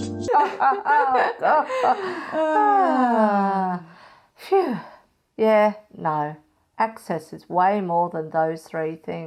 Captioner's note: elevator music; still laughing; sigh